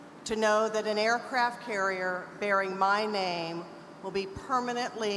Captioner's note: none